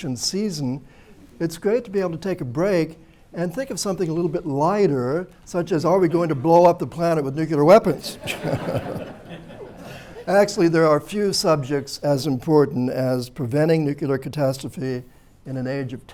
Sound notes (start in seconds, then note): 7.9 laughter